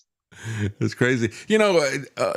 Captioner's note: laughs